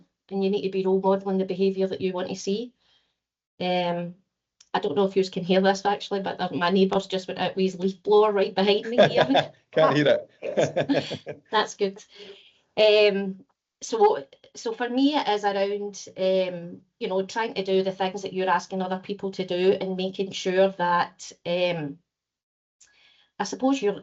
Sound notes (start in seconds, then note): 10.4 laughs